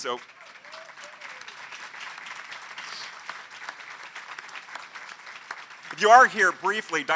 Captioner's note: applause